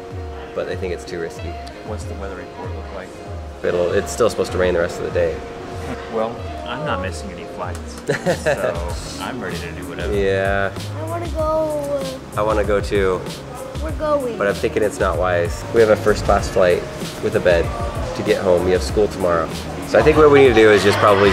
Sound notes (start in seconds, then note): 8.0 laughing